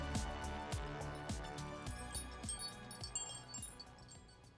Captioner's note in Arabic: رنين الدقات